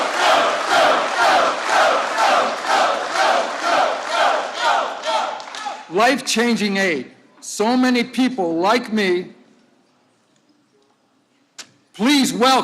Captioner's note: applause